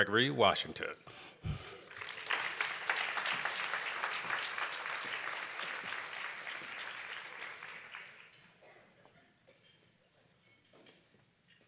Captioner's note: applause